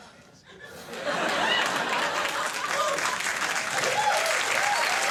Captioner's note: audience laughs